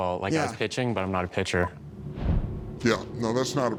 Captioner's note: air whooshes